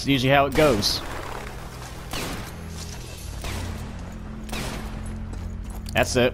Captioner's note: Schmidt firing random Luger shots